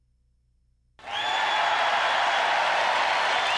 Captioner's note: cheering